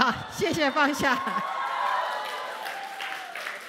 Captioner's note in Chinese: 掌聲